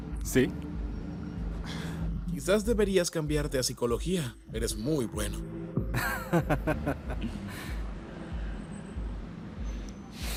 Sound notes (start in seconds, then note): 5.9 risas